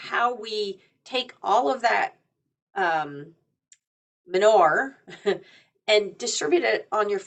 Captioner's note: chuckles